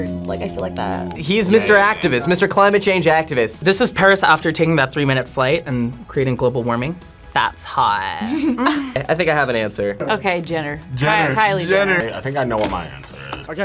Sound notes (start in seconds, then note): 8.2 laughs